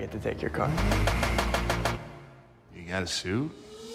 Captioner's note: zooming car engine